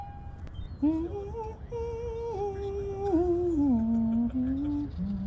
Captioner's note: humming